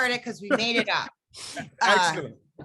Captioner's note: laughing